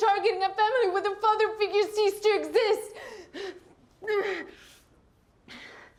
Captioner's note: breathing heavily